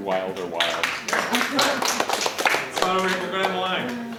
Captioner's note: applause